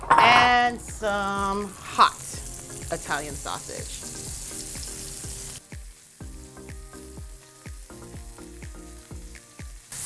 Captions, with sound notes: and some hot Italian sausage. (bright music) (sausages sizzling)